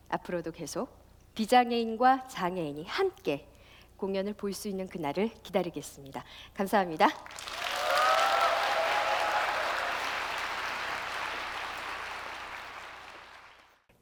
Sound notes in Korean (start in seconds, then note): 7.2 박수와 함성